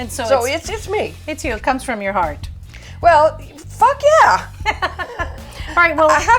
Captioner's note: laughter